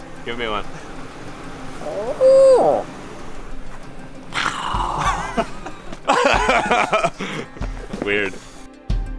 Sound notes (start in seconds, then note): 1.8 owl hoots; 4.4 gobbles